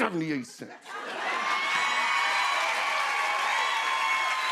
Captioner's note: cheers and applause